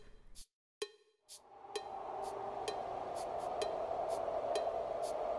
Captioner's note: wind howling